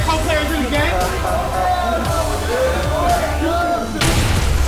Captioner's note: locker room excitement - post game